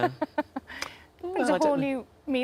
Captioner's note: Sarah laughs